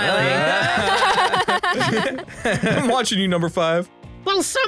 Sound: laughs

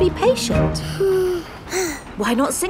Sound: both sigh

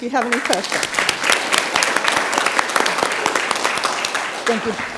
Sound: audience claps

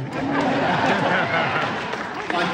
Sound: crowd laughs

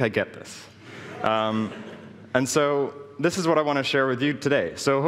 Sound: laughing

